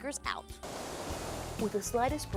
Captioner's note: loud breeze